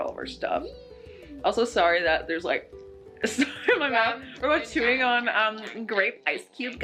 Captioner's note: smack gum